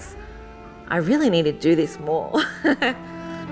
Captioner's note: laughs